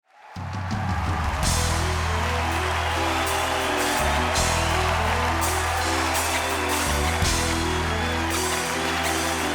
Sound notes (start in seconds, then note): 0.0 crowd applauding; 1.4 grandiose hip-hop music